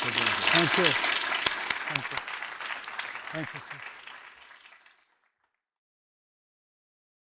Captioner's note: audience applauding